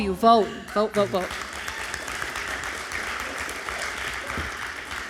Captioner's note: crowd clapping